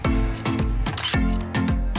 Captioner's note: photo click